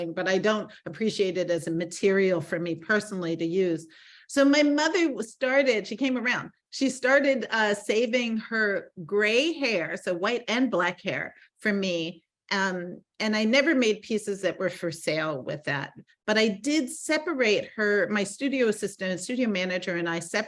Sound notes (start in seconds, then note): none